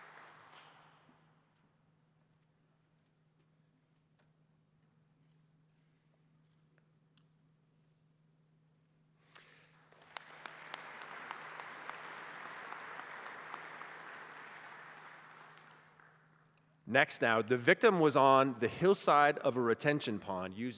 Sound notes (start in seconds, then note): 9.4 applause